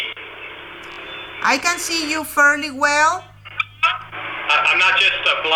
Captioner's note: voiceover